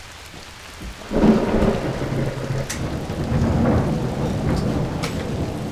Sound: thunder crashing

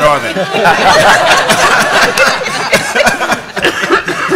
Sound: laughter

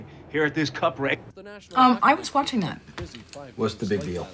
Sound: changes station

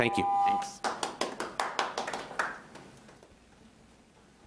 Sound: audience applauds

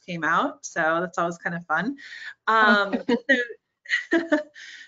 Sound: laughing

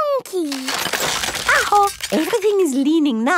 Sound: house creaking

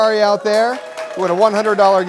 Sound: cheer and applause

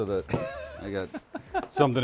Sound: laughing

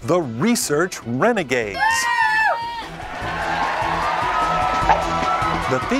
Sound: cheering

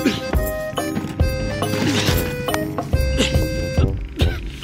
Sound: panting

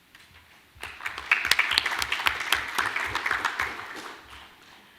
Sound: audience applauding

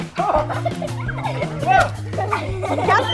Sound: upbeat music; laughter and splashing

